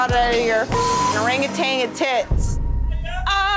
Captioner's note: beep